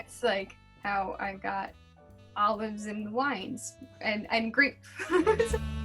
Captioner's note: laughs